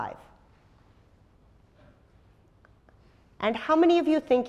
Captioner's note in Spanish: pausa